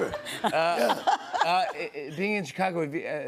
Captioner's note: laughs